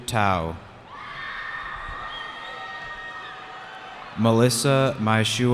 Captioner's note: cheering